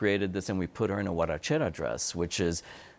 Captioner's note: speaks Spanish